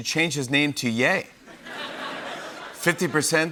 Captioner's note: laughter